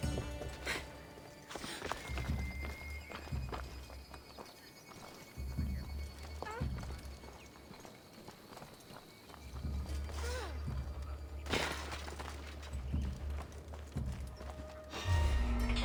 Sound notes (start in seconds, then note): none